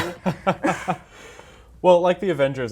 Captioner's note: laughing